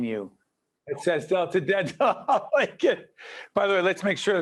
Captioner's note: laughing